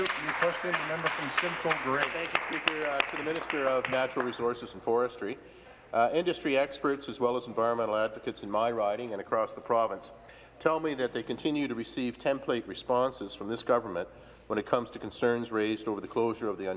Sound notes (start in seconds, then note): 2.6 applause